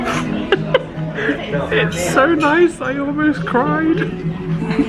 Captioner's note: laughing